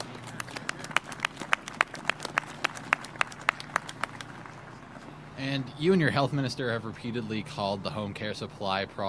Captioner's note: applause